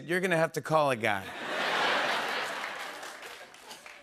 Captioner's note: laughter